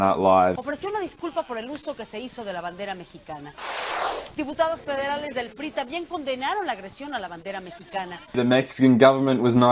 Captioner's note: more of the reporter speaking in Spanish- Apologies again for no translation